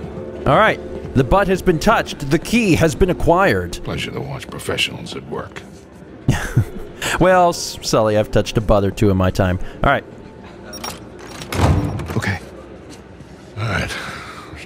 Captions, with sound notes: All right! The butt has been touched. The key has been acquired. [laughs] Well, Sully, I've touched a butt or two in my time. All right.